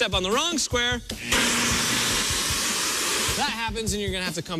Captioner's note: alarm sounds